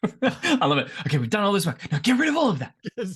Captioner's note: laughs